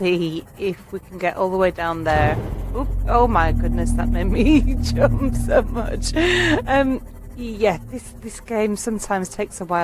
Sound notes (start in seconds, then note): 6.8 laughing